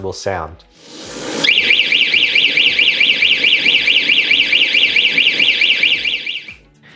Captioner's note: siren blaring